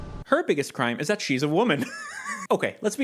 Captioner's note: laughing